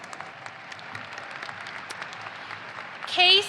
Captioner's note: audience applauding